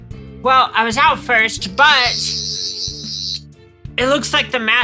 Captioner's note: Sonic Screwdriver noises